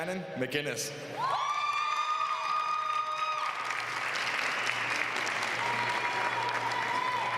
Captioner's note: applause